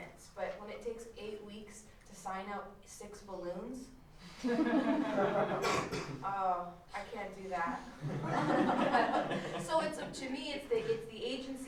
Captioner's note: laughter